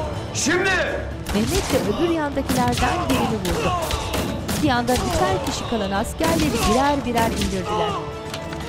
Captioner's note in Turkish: Silah sesleri